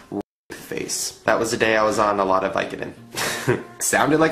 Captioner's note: laughs